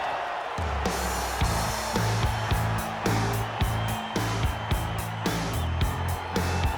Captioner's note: crowd cheering; upbeat music